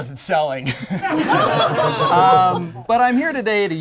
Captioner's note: group laughs